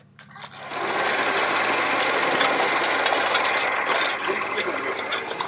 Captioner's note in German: Spindeldrehgeräusche